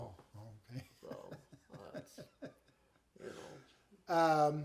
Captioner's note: chuckling